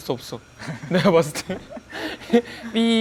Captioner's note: haha